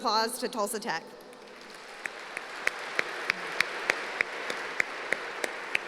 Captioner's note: applause